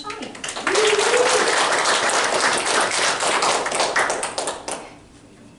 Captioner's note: applause